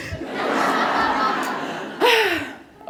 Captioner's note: laughter